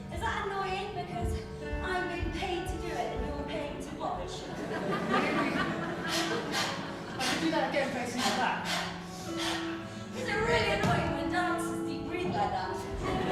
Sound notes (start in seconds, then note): 6.7 performs heavy short breaths